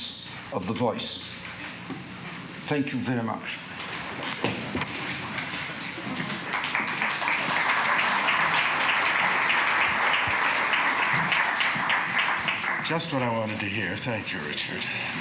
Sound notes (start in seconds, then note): 6.2 applause